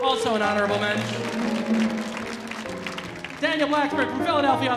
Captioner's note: audience applauding